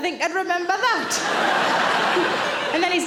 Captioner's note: audience laughing